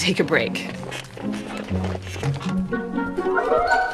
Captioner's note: chair creaking; mischievous music